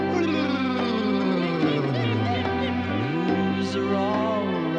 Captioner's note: yawning